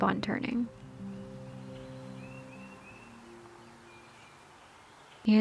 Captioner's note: more birds chirping